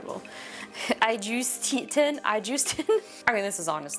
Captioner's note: laughs